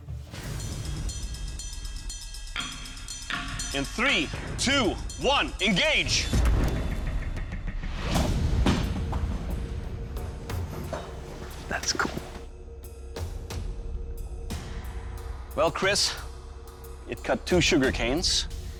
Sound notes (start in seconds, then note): 10.6 whispers